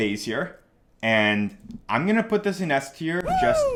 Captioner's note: man cheering